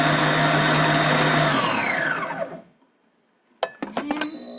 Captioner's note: mixer beeps